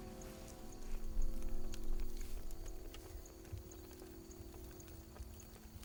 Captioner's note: crickets chirping; fire cracks